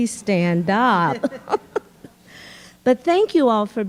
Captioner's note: laughing